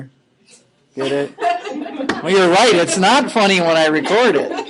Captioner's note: laughing